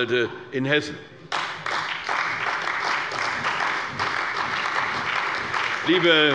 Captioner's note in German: Beifall bei der CDU und dem BÜNDNIS 90/DIE GRÜNEN